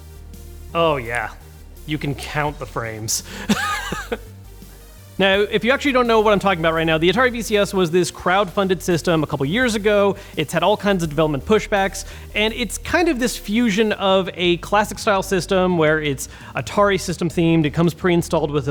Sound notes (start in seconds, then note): 3.2 chuckles